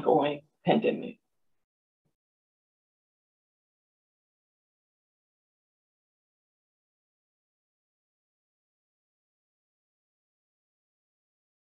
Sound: silence

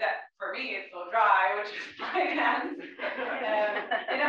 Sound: laugh

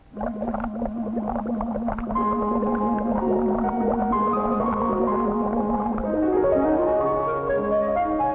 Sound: image of teeth and bubbles accompanied by scrubbing, bubbling sounds

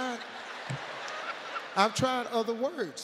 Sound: audience laughs

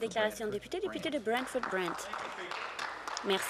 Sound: applause

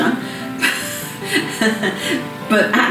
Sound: laughter

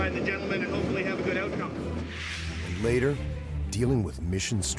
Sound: voiceover

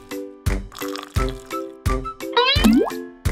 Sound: upbeat music; water sloshing; tea bag sloshes

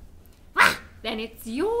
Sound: animal grunts

